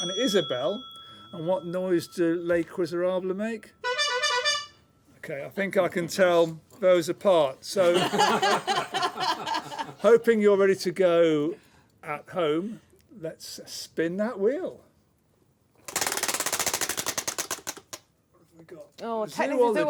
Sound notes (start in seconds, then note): 3.8 honking; 7.8 laughter; 15.8 ratcheting